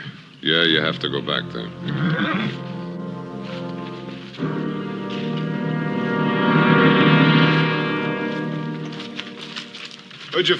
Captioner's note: horse whinnies